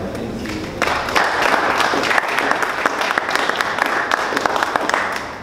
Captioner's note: audience applauds